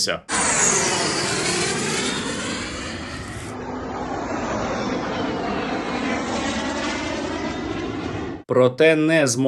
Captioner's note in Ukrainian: звук пролітаючої ракети